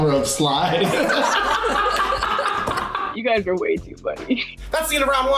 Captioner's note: all laugh